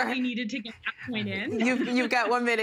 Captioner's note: laughter